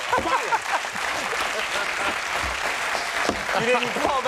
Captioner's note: audience clapping and cheering